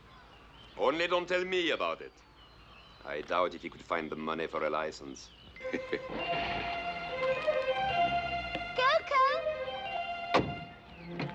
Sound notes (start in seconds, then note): 5.6 grandpa chuckles; 6.0 car revving